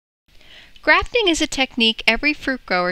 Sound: voiceover

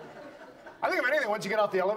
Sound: audience laughs

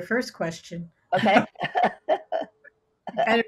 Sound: chuckles

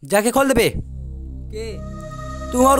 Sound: in Hindi

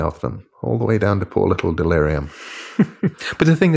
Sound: chuckling

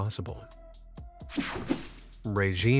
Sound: screen whooshing

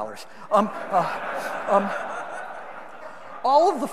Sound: audience laughing

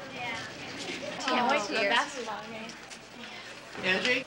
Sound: girls chatter

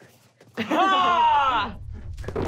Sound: battle cry

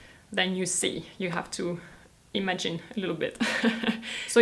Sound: chuckles

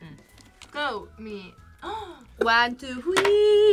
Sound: gasps

